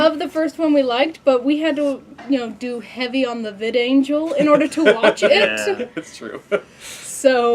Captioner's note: laughing